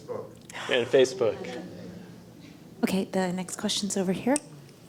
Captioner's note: laugh